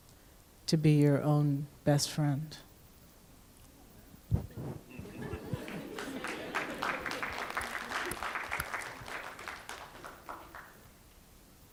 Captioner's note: applause